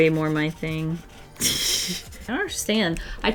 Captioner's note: laughs